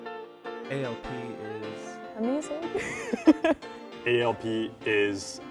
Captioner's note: laugh